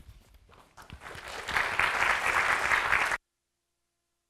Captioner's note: applause